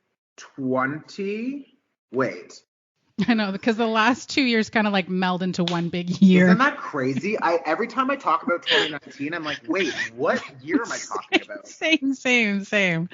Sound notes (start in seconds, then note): 6.1 laughing